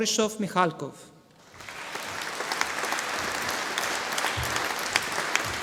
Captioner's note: audience applauding